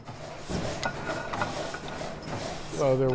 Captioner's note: machines clanking